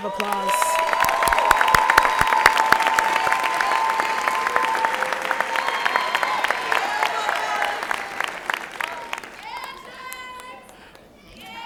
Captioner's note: applause and Cheering